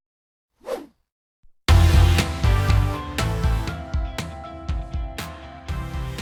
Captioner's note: whooshing; soft upbeat music